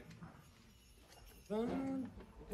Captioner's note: humming